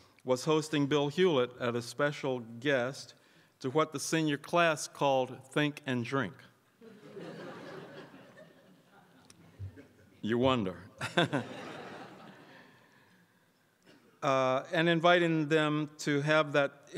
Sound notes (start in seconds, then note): 6.8 crowd laughs; 11.0 chuckles